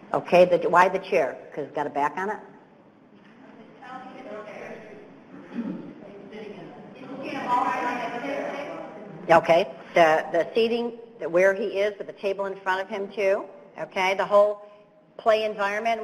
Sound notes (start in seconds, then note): 3.7 audience members talking